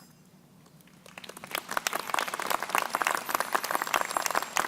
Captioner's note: crowd applauding